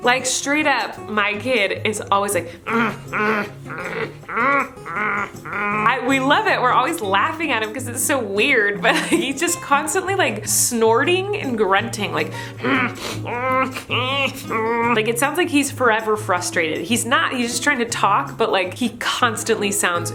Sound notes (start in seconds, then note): 2.5 grunting noises; 12.4 grunting noises